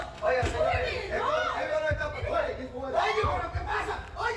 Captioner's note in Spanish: Ruido en la puerta; Gritos